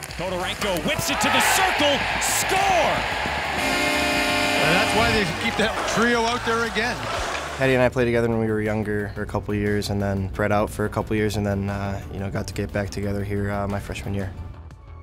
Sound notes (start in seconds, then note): 2.5 cheering; 3.6 hooting